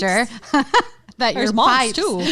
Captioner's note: laughing loudly